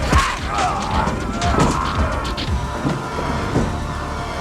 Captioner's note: machine gun firing; man screaming